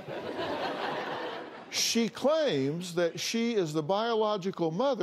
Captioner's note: laughter